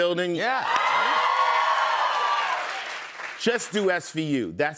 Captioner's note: cheers and applause